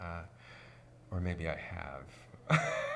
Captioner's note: laughs